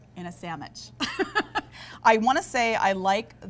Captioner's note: laughing